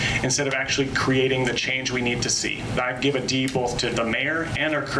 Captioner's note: none